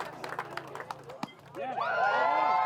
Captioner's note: baseball hit; cheers